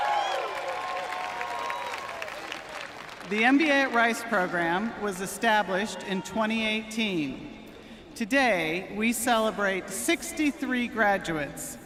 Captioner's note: cheering and applause